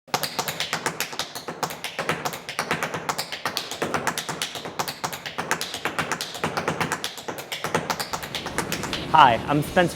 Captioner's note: tap dancing